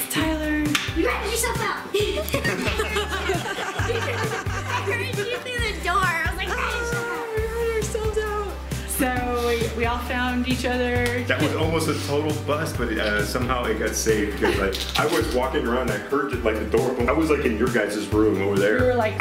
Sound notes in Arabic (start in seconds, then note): 2.1 كل يضحك